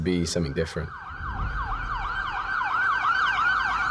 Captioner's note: sirens wailing